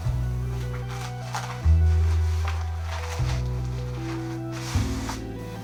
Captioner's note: straps scraping